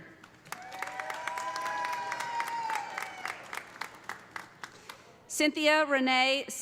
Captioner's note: audience applauding; audience cheering